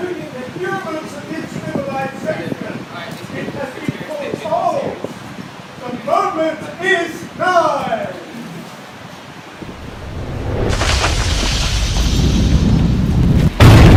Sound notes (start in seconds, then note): 9.6 loud rumbling noise; 13.6 loud explosion